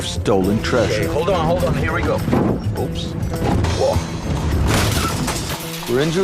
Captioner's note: crashing